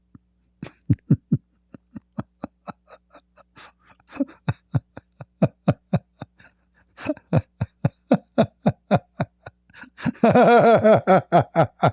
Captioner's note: Ketawa